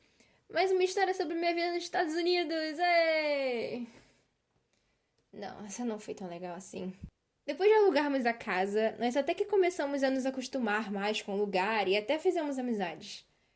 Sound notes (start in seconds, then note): 4.1 silence